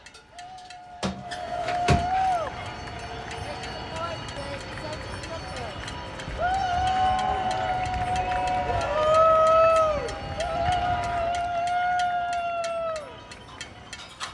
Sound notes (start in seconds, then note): 0.0 people cheering; 7.4 distant hollering and pan clanging